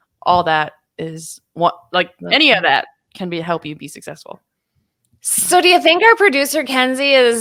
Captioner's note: none